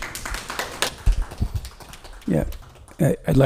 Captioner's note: all clapping